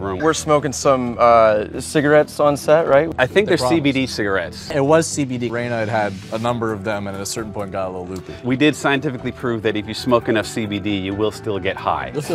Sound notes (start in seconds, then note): none